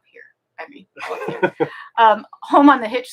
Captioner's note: laughing